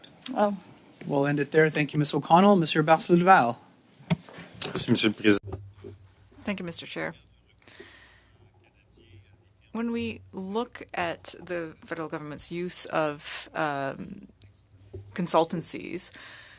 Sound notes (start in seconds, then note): 10.3 speaking French